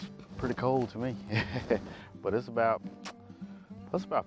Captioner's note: laughs